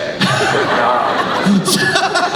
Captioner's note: laughing